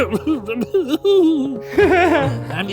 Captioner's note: crying; laughing